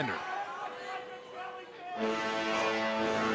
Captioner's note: crowd chatter